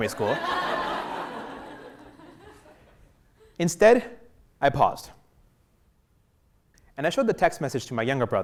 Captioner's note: laugh